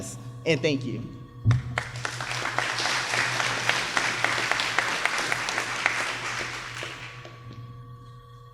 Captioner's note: applause